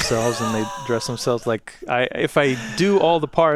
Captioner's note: laughs